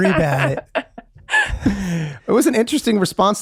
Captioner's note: laughing